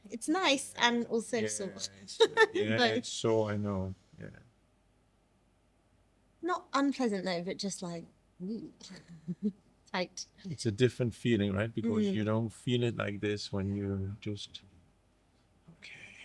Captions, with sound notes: It's nice, and also so much. (laughing) Yeah, it's so, I know, yeah. Not unpleasant, though, but just like, mmm, tight. It's a different feeling, right? Because you don't feel it like this when you just, okay.